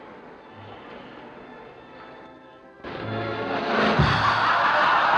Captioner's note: cymbal crash; laughter